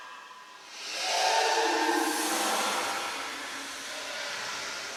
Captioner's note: muffled scream